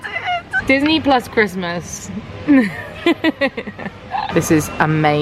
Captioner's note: giggles